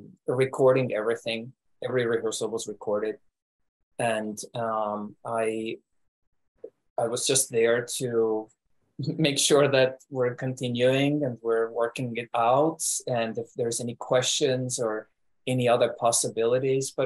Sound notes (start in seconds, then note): 8.3 chuckles